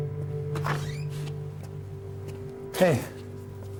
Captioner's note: door squeaks